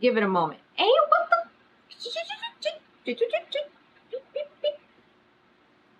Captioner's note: shushes and tuts